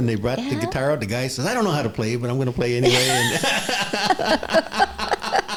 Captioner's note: laughter